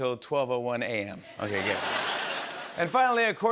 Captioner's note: laughter